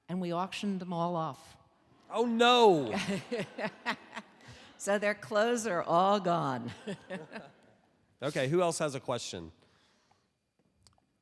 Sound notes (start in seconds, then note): 2.6 audience laughing; 6.6 laughing